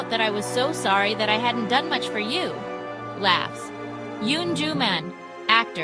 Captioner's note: laughs